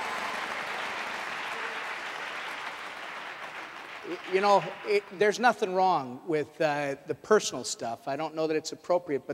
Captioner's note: applause